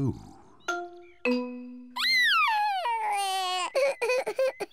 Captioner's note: sobbing